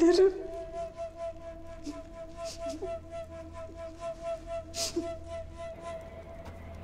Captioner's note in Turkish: Ağlama Sesleri